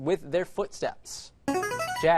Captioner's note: answer bell